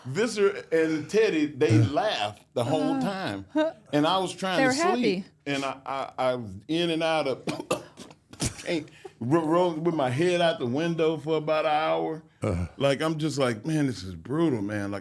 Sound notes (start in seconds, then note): 7.4 coughing